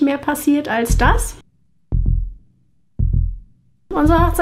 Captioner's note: heartbeats